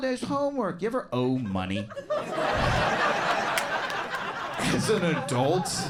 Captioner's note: crowd laughs and claps